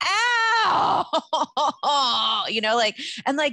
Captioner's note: wails